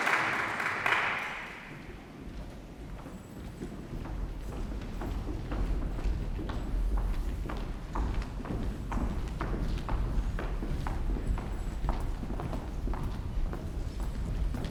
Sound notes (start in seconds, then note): 3.2 footsteps approaching